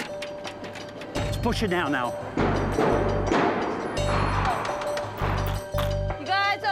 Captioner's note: knocking